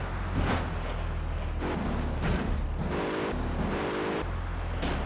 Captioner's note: tires screeching